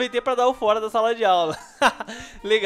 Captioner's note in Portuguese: risos